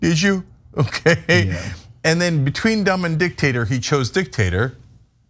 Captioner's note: laugh